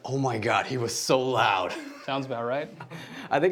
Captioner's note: laughing